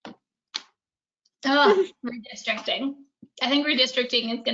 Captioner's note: hands smacking